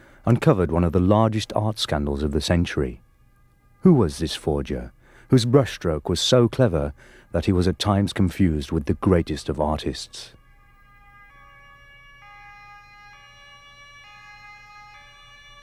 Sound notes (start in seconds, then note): 10.6 sirens blaring